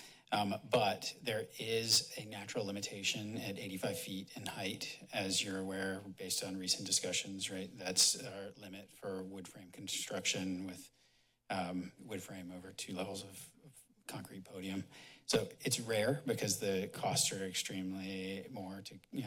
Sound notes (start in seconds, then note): none